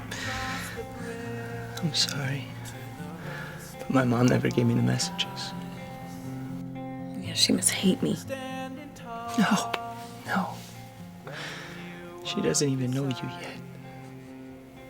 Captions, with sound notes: - I'm sorry, but my mom never gave me the messages. - Yeah, she must hate me. - (voice breaking) No. No. She doesn't even know you yet.